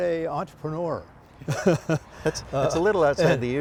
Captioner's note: laughter